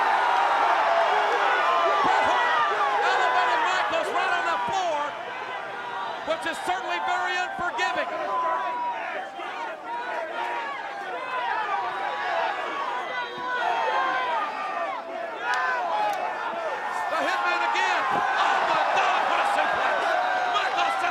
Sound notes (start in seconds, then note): 11.6 audience shouting